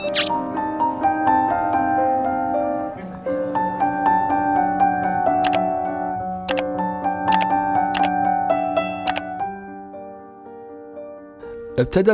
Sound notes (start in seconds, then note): 0.2 soft music; 5.5 mouse clicking